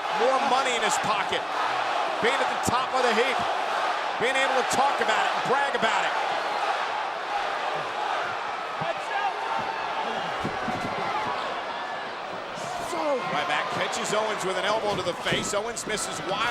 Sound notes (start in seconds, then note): 6.6 audience chattering; 9.5 feet thudding; 12.5 wrestler grunting